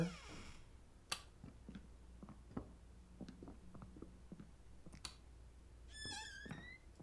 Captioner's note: door opens, light switch on; footsteps, light switch off, door closes